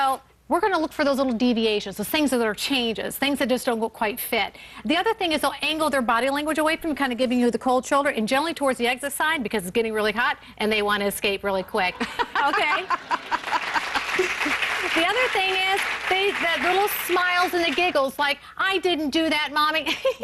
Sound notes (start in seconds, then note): 12.0 laughter, applause